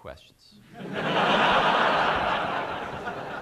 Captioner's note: laughter